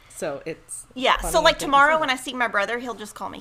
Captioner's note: speaks faintly